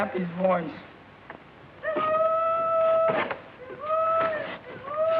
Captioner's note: hollering